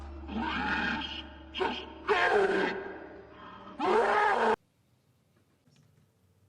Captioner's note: roaring